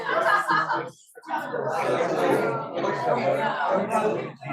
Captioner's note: students chattering